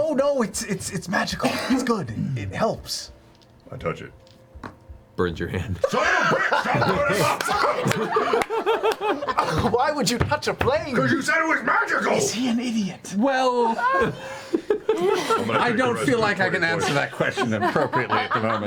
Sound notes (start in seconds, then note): 5.8 all laugh; 12.5 whispers